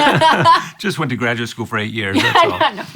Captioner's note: laughing